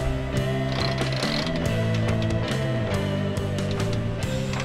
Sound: winch ratcheting

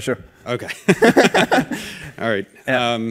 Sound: laughing

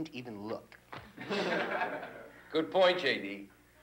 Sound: students chuckle

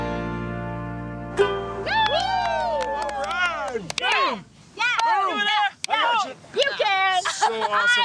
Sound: ukulele strum; cheering

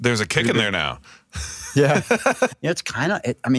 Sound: laughs

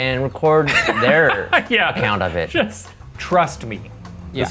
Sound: laughs

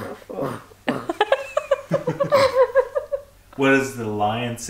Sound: laughing

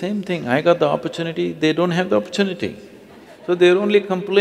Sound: laughter

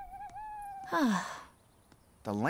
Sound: Angela sighs

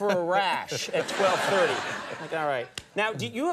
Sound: Jerry and audience laugh

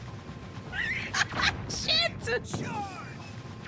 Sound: laughter

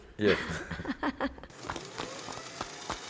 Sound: laughs

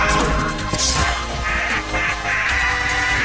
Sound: wails

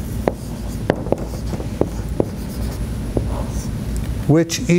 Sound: marker clunks

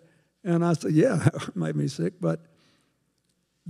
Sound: chuckles

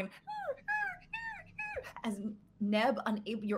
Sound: Deborah whimpers

